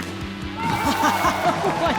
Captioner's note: laughs